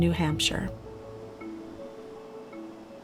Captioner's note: wind blowing